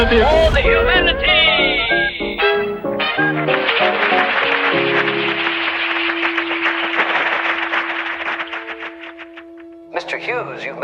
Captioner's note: applause